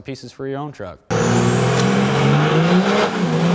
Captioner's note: truck engine